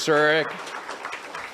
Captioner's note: audience applauds